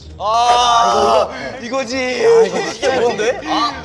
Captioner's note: cry of agony